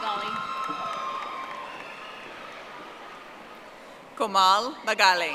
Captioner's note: audience applauding